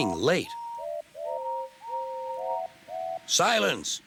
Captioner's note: horns hooting